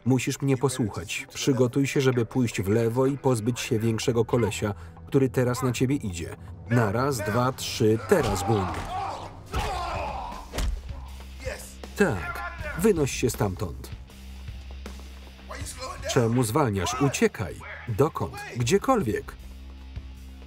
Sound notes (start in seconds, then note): 8.0 grunting